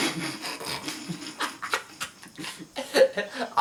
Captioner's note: laughing